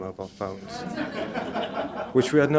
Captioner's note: laughter